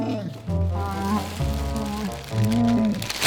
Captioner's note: Chewbacca sounds